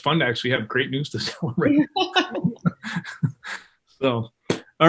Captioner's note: laughs